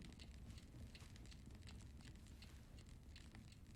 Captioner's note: clock ticking